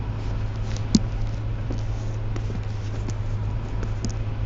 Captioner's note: car engine roaring